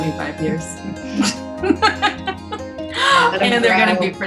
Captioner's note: laughing